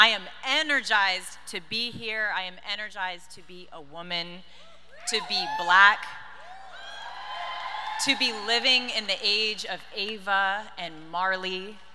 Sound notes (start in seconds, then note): 6.4 audience cheers